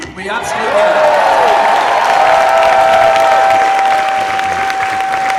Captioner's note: audience applauds and cheers